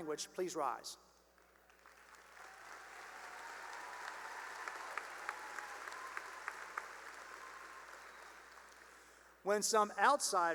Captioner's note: cheering and applause